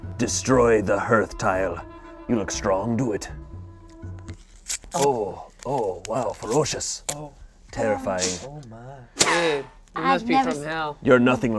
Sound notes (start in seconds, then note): 4.3 paper ripping; 8.2 spitting